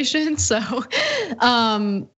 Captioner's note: laugh